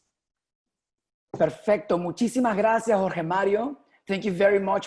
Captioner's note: speaking spanish